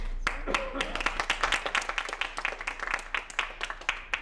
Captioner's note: applause